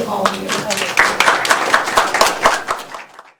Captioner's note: applause